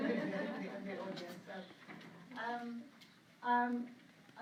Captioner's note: laughter